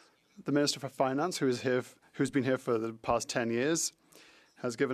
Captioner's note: speaking French